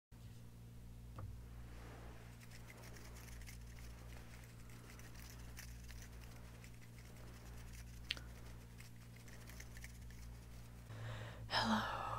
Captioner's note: finger fluttering sounds